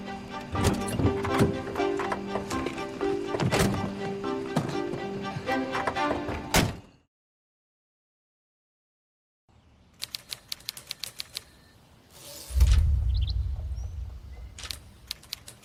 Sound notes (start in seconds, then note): 10.0 birds chirping